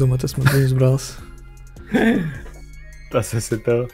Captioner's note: laughs